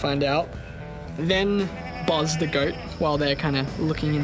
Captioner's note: goat bleats